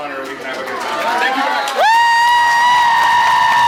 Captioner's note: applauds; applauds, cheers